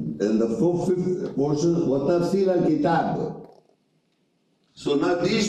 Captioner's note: reading Arabic